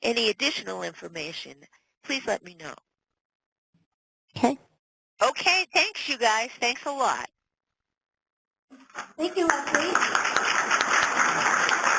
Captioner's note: applause